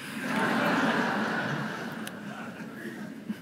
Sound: laughter

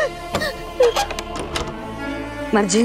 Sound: door creaks shut

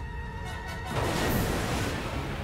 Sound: splashing

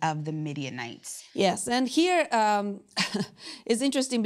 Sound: laughs

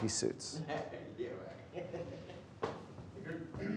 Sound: laughter

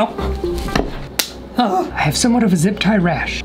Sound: zip tie snapping; sighs

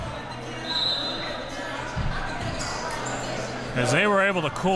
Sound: whistle blows

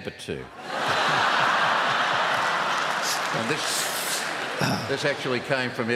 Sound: laughter

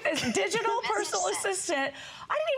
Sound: laughter

